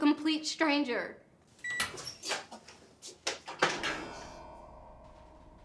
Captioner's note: oven creaking